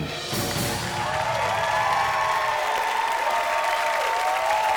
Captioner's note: audience cheers and applauds